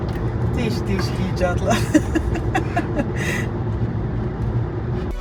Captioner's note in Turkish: kahkaha